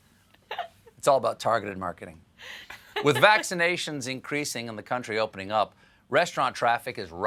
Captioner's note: laughter